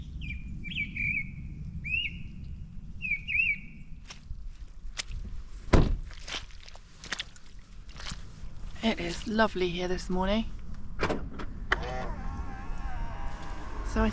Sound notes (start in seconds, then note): 0.0 birdsong; 6.1 squelch squelch squelch squelch; 11.0 car locks